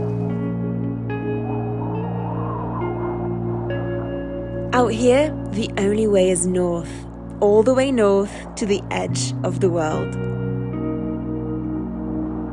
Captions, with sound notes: (tranquil music) (wind howls) Out here, the only way is north, all the way north to the edge of the world.